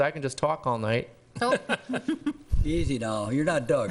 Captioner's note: laughing